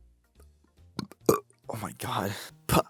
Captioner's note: burp; chuckle